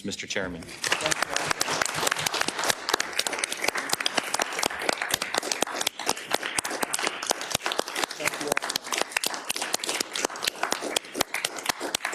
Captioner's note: applause